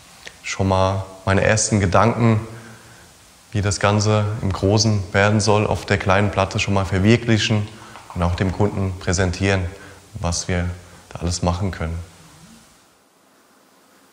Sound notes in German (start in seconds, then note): none